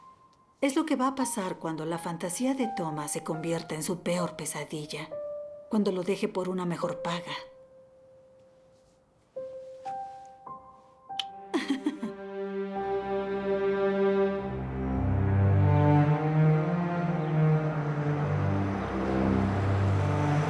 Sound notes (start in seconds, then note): 11.2 suspenseful music; 11.5 Freddie Laughs